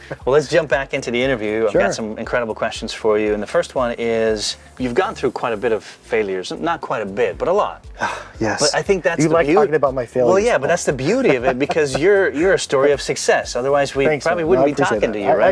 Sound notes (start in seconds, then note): 0.0 laughs; 8.0 sighs